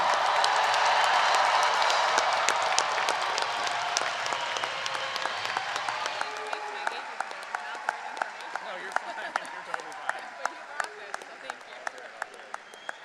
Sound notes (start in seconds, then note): 0.2 audience cheering and applauding; 6.8 people chattering